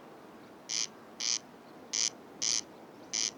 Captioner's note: rival calls nearby